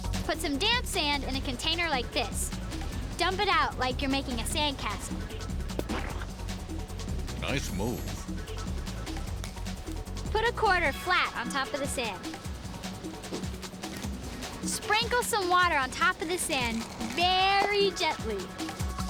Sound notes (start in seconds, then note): 5.8 splat!